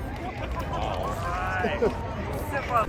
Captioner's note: luaghs